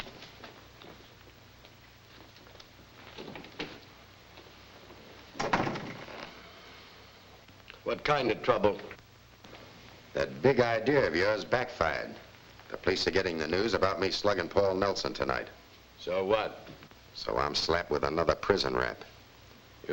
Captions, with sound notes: (door thuds shut) What kind of trouble? - That big idea of yours backfired. The police are getting the news about me slugging Paul Nelson tonight. - So what? - So I'm slapped with another prison rap.